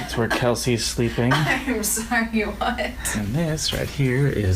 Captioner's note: laughing